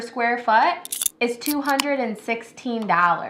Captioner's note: can opening